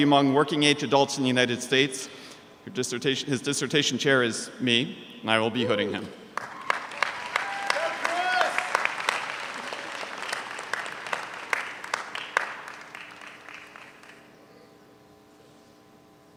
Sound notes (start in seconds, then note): 7.1 audience applauds